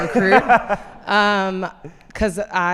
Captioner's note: laughs